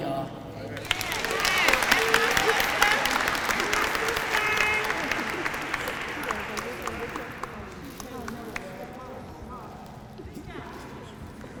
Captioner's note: applause